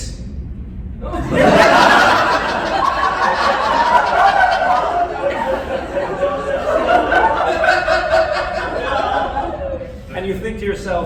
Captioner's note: laughter